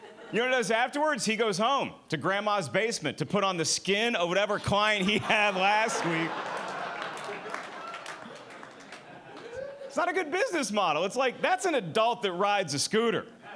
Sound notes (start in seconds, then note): 6.3 audience laughing